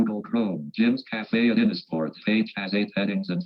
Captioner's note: automated Voice